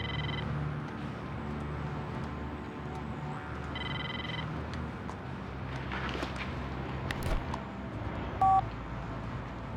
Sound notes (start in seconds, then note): 0.0 phone ringing; 8.4 phone beeping